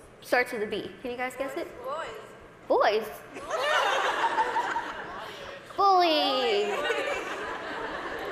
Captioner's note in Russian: голос из зала